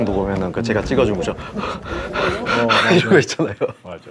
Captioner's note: gasps